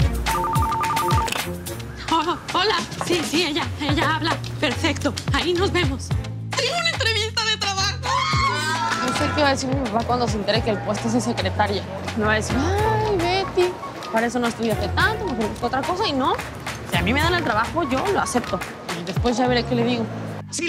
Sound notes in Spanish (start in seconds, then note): 0.2 Suena un teléfono; 8.0 Exclamaciones